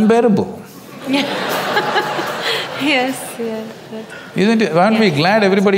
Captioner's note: audience laughs